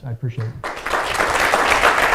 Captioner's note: applause